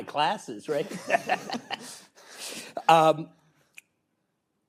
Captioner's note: laughs